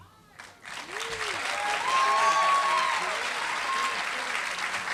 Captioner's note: applause